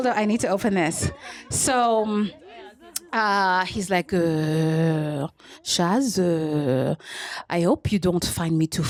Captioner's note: french accent